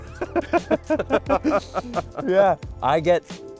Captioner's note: both laughing